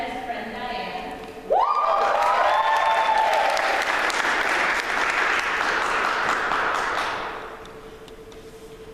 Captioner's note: applause